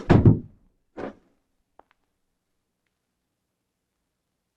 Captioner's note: back pack thumps